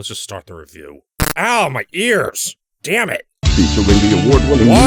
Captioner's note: loud glitch noise